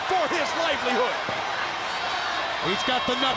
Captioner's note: crowd chatter